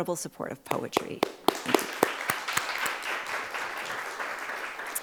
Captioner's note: crowd applauds